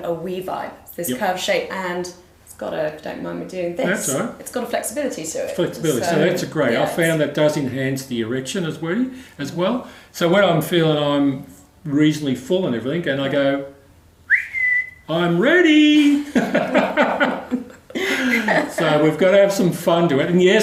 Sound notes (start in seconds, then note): 14.2 whistles